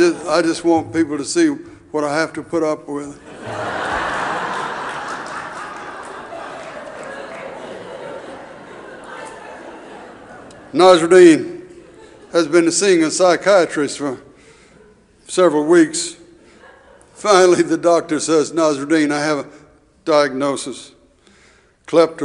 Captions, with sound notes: I just want people to see what I have to put up with. (audience laughing) Nasruddin has been seeing a psychiatrist for several weeks, finally the doctor says, Nasruddin, I have a diagnosis, kleptomania.